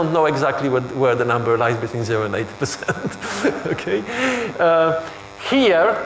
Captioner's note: chuckles